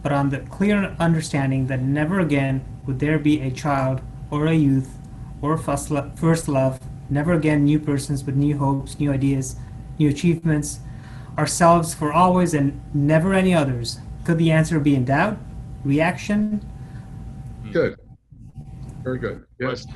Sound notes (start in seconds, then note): none